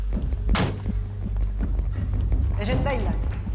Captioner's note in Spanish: Portazos